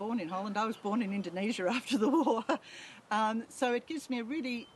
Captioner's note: laughs